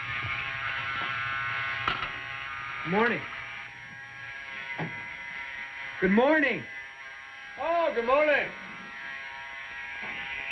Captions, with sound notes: -Good morning. (LOUDER) Good morning! -Oh! Good morning!